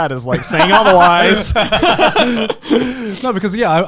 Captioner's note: Garnt laughing